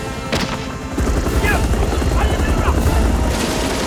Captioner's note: Korean